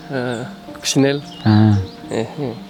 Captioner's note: in french